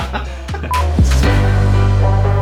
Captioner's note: laughing; beep; funky upbeat music